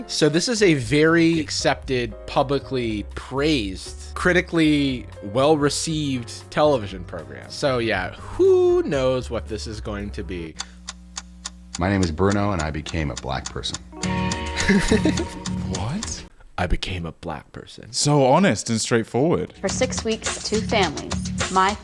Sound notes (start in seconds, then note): 10.7 clicking; 14.0 tense music; 14.5 laughing